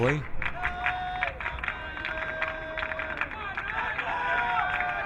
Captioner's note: crowd clapping